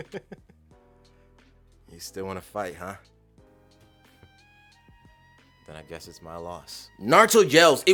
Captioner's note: chuckle